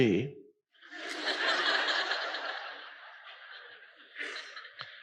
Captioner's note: crowd laughs